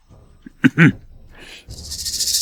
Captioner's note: cough cough